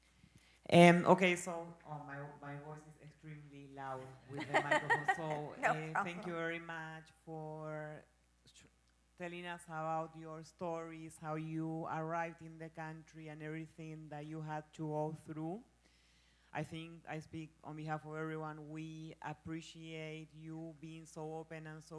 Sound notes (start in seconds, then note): 4.2 laughs